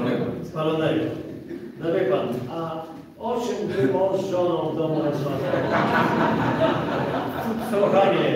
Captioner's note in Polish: Śmiech z sali